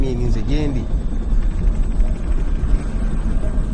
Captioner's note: distorted helicopter humming